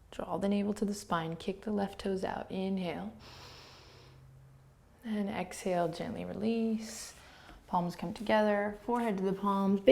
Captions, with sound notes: Draw the navel to the spine. Kick the left toes out. Inhale. (inhaling) Then exhale, gently release. Palms come together. Forehead to the palms.